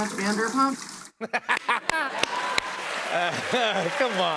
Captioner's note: laughter